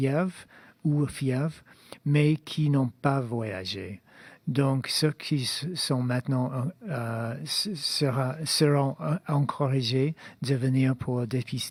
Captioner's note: speaking in French